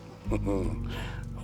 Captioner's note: sighs